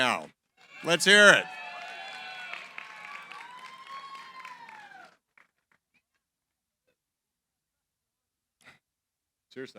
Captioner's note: cheering, applause